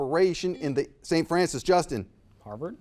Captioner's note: buzzer buzzes